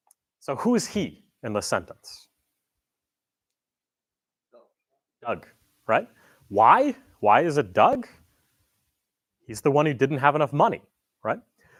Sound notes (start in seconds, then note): none